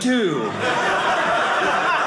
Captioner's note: audience laughing